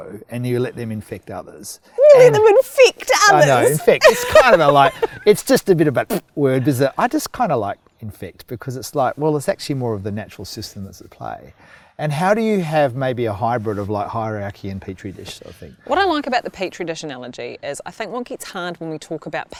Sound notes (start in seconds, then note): 5.8 blows raspberry